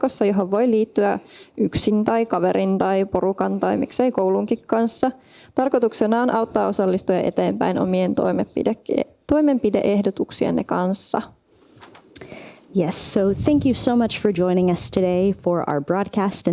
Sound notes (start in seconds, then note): none